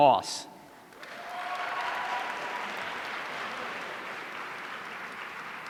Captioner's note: audience applauding